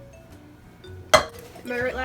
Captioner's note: cup slams down